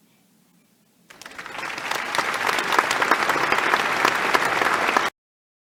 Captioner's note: unnecessary applause in the background